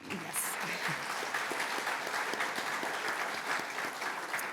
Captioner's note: applause